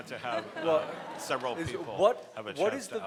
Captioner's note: people laughing